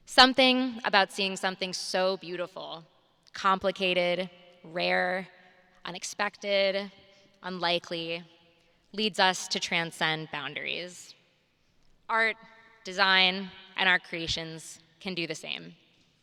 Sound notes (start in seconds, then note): none